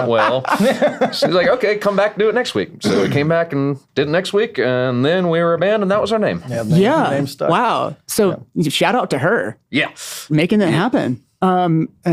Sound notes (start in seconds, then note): 0.0 laughing; 2.8 clears throat